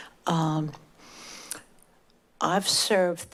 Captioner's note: smacks lips